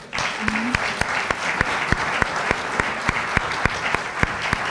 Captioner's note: applause